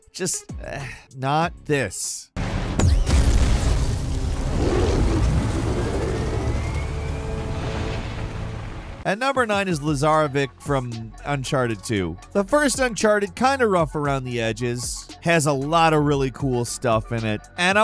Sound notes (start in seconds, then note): 0.7 sighs; 2.4 explosion booming